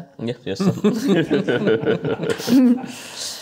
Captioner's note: chuckles